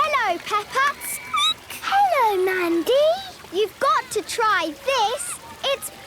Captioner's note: children giggling